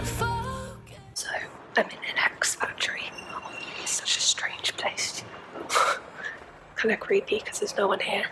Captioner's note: loud breathing